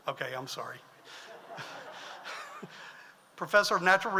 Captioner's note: audience laughs